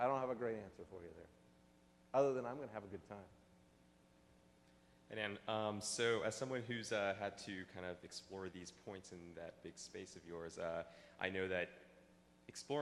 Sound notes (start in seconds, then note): 6.8 voiceover